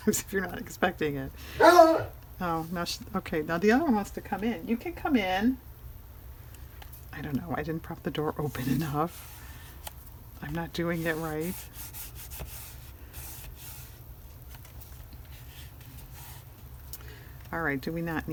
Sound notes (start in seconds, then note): 1.5 laughs; 1.6 dog barks